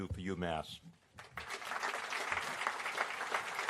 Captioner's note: applause